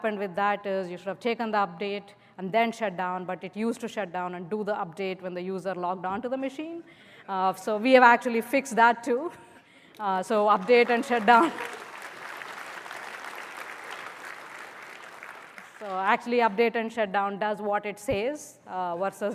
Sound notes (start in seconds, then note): 10.3 applause